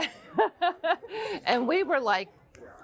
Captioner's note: laughing